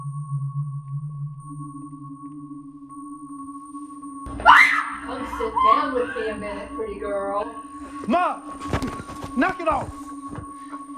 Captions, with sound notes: (Jessie screams) Come sit down with me a minute, pretty girl. - Maude, knock it off!